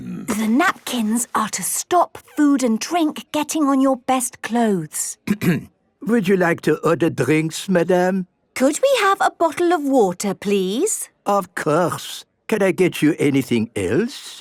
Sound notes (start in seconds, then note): 5.2 clears throat